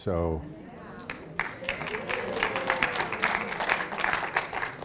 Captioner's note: audience applauds